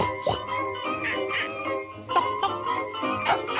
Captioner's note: pig snorts; duck quacks; bird chirps